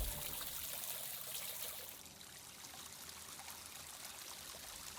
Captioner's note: water pattering